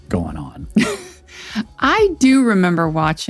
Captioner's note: laughs